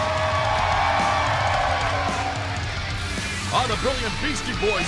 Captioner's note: cheers and applause